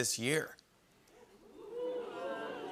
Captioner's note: oohing